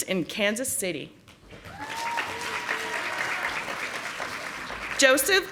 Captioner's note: audience applauding